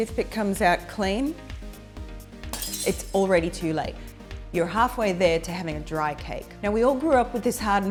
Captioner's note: glass break